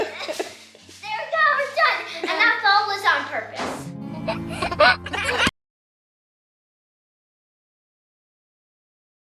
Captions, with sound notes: - There we go, we're done. And that fall was on purpose. (baby giggling)